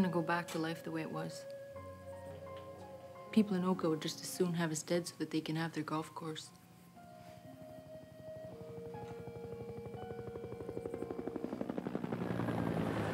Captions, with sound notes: so that they can have their golf course. (helicopter whirring) - The SQ can come in and get us any time they want.